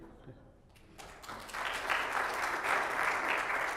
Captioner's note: applause